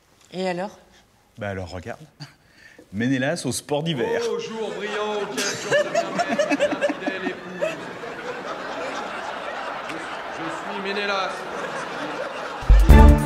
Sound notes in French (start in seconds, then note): 4.0 Rires; 5.5 Rires de la salle